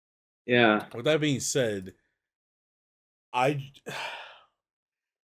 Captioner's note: sighs